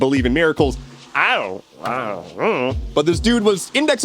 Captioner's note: gremlin noises?